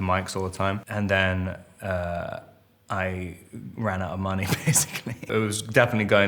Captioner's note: Robert laughs